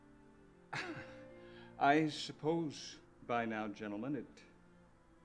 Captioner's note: chuckling